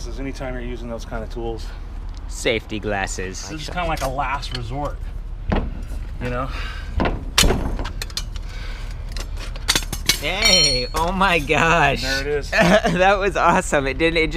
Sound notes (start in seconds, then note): 8.8 metal scraping; 12.4 laughs